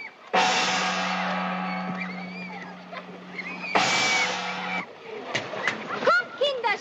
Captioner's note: loud Gong